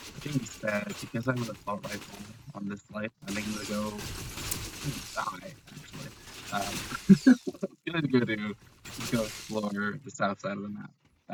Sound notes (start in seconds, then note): 7.1 laughter